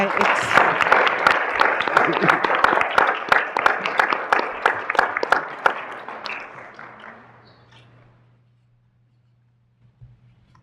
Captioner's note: applause